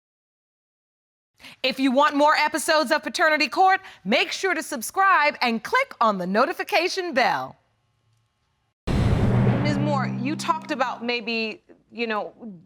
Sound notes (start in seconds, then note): none